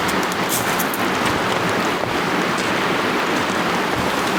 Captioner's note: water splashing